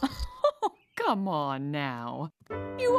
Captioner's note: mama Chuckles